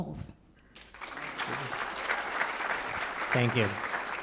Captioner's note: applause